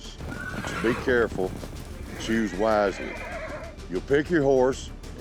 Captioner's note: horse neighing wildly